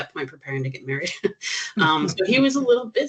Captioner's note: chuckling